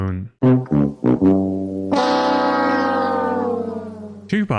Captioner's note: game show losing sound